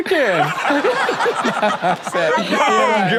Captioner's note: Sterling and Karrueche laughing